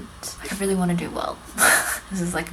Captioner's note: laughs